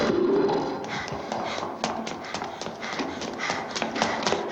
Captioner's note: panting